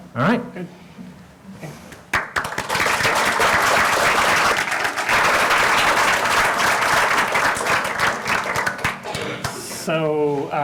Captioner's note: applause